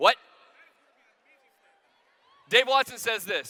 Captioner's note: shouting